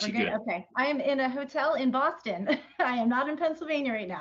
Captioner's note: laughs